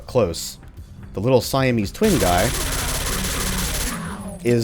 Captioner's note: suppressed rat-a-tatting continues